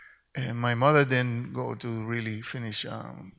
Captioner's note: none